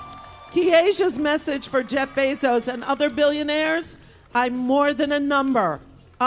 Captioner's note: applause